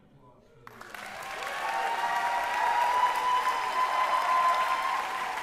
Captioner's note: applause